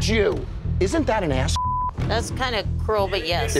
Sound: beeping

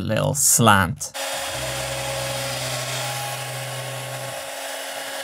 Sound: CNC machine whirring; vacuum cleaner noise

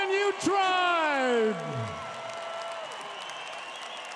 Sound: crowed cheering

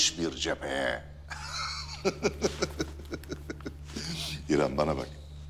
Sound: laughter

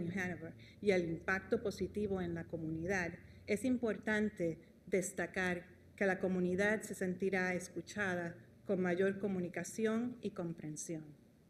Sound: speaking spanish

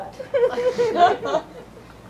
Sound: laughter

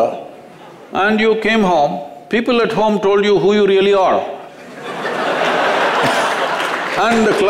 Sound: laughter

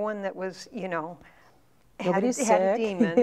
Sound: laughing

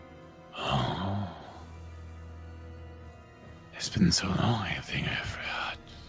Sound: groans

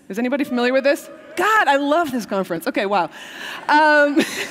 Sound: cheers

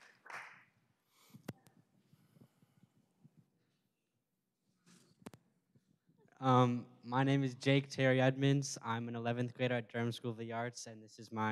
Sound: applause

